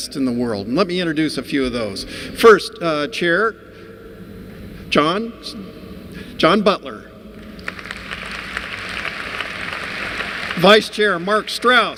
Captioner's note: applause